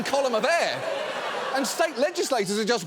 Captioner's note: studio audience laughing